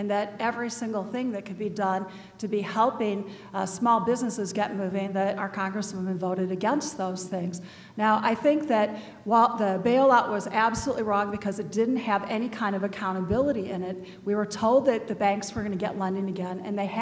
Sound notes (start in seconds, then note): none